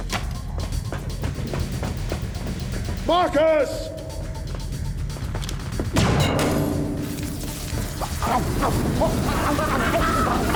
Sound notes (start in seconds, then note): 5.6 gunshot; 8.1 laughs